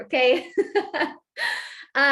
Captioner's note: laughter